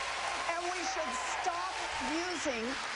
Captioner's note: cheering